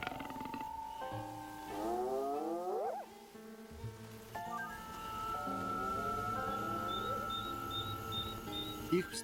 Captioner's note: snarls